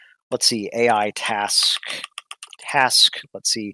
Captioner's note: typing